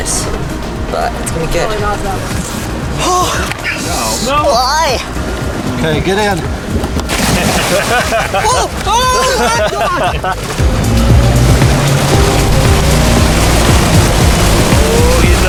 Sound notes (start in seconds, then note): 7.3 water splashes; 7.4 laughing; 10.9 water splashing